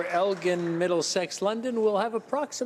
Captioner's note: applause